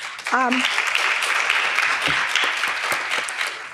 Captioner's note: audience clapping